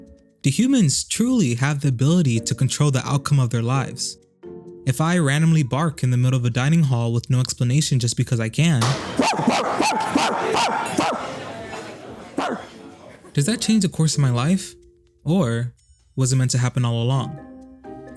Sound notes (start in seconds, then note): 8.8 imitates dog barking